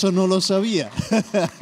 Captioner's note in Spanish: se ríe